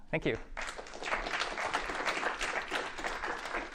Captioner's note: applause